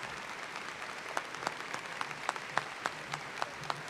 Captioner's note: applause